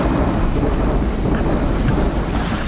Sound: train

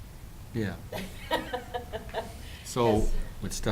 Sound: chuckling

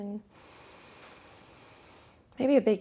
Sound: inhales deeply

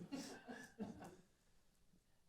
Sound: laughter

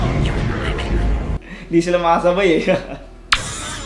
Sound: laughter

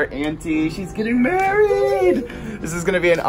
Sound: laughs

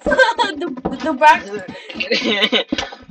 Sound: goofy snicker

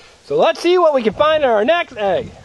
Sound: voiceover

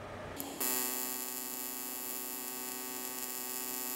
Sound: welder buzzing

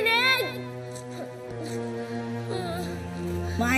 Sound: whimpers

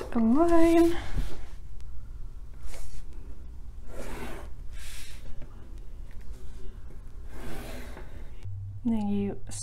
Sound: sound of pencil on paper

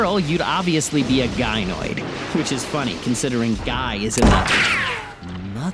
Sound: gunshot, ricocheting noise

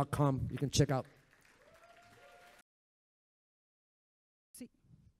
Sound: audience applauds

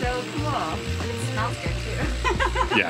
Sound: laughs

